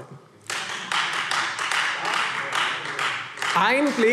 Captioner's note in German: Beifall Freie Demokraten